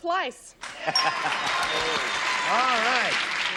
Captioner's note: applause